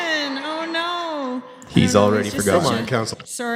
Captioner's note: laughter